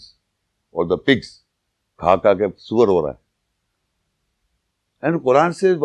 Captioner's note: in Urdu